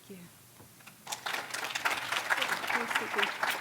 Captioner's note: applause